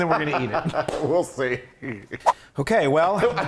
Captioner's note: laugh